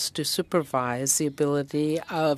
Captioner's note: speaking French